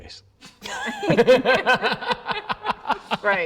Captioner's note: all laugh